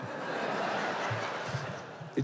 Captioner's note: laughter